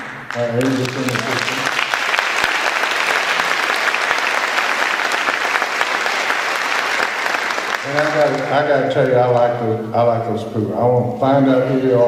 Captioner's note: applause